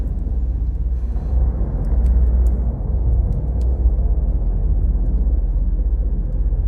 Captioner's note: flames crackling; foreboding electronic music